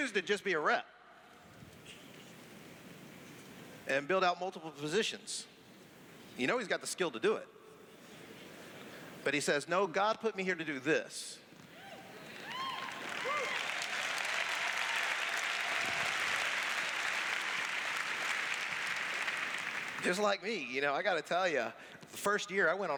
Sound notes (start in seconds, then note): 12.2 cheers; 15.0 applause